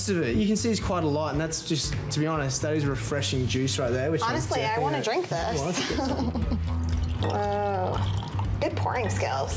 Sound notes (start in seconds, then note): 5.7 chuckles; 6.6 pouring